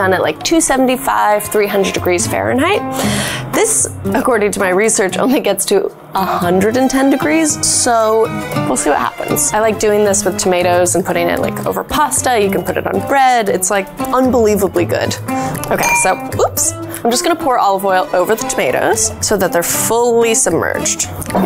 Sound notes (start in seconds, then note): 15.7 glass clinks